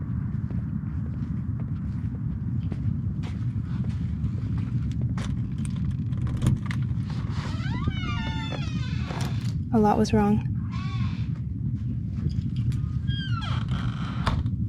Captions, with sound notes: (door unlocks) (door creaks open) A lot was wrong. (door creaks shut)